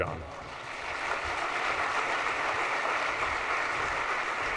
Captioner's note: audience applauds